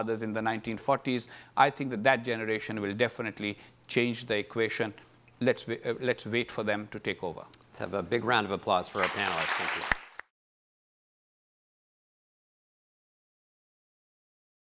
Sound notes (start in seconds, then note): 8.9 audience applauding